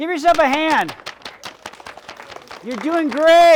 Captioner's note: audience applauds